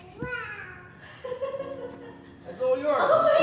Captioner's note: laughter